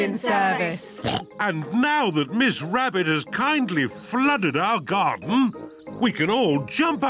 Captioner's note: oinks